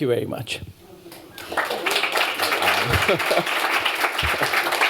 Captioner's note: applause